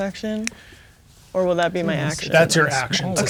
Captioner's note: speaking quietly